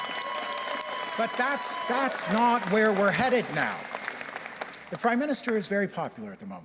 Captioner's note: cheers and Applause